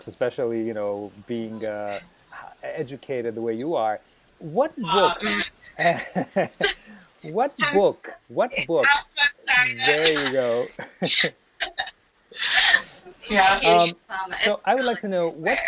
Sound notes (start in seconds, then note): 5.8 laughter